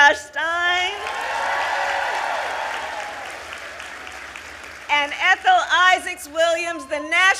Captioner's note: applause